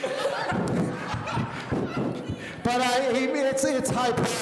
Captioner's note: laughing